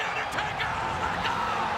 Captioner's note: crowd roaring